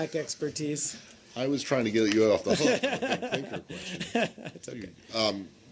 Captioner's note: laughter